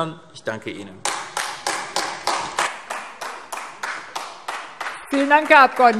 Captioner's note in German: Beifall AfD